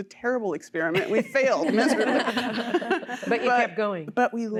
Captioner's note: laughter